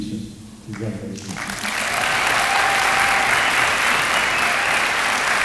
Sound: applause

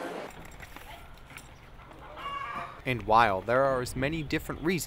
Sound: chicken sounds

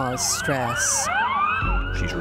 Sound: sirens wailing

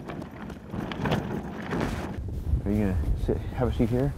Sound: wind noises

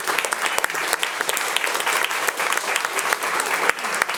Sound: audience applauding

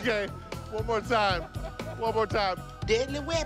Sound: laughing

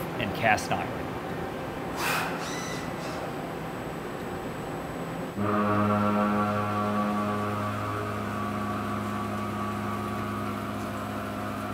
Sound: machining Noises

